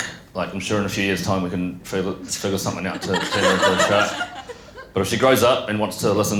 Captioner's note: laughter